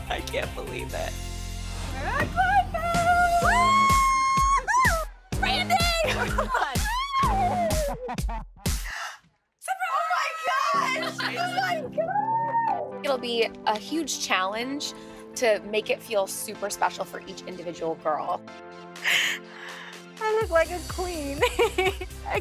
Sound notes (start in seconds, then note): 2.9 whooping; 6.8 screaming; 7.6 laughing; 8.8 gasps